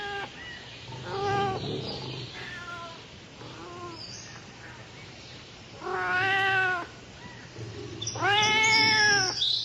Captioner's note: kittens meowing